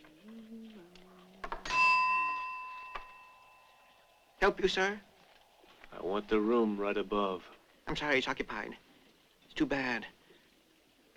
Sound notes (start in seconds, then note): 1.6 rings bell